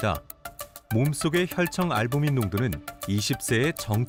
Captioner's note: voiceover